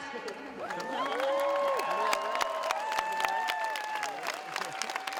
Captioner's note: cheering